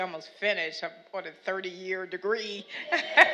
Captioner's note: laughs